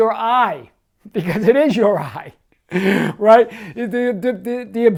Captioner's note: laughing